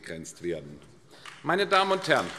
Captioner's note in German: Beifall AfD